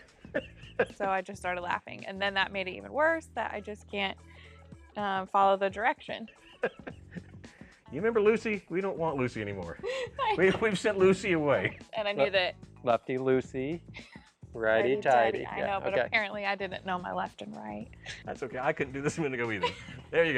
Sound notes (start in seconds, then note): 6.2 laughter; 14.0 in Unison; 18.6 laughter